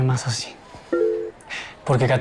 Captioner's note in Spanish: Alerta de mensaje